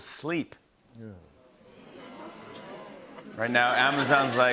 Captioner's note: audience groans